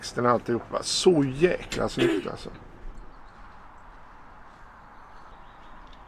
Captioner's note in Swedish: harklar sig